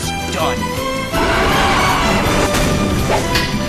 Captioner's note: leech moth ROAR and Lunges At Brown